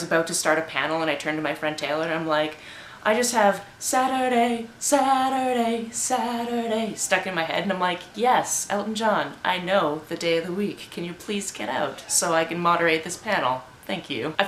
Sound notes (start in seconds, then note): 4.1 sings; 6.2 speaks